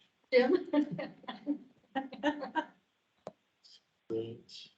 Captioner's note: members laughing